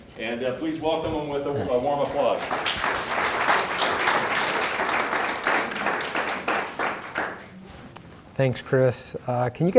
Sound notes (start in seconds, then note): 1.9 audience applauding